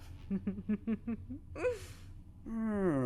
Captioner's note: worrying giggle